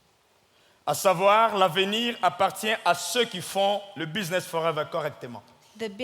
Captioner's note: speaking in French